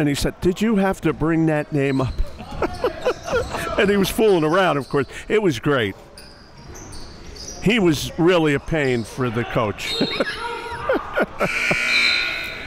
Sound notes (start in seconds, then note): 2.2 laughing; 9.8 laughing; 11.4 buzzer dings